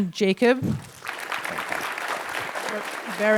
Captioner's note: applause